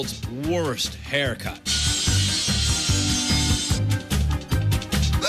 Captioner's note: buzzing